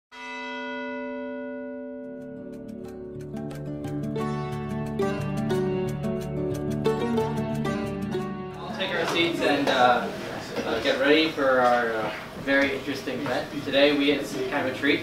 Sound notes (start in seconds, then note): 0.1 bell Toll